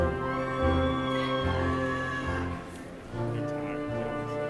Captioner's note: crowd cheering